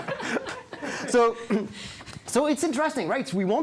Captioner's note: all laughing